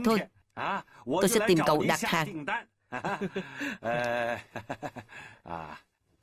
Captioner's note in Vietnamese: Tiếng cười